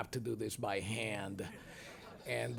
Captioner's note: audience chuckles